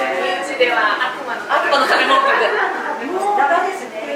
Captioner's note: laughs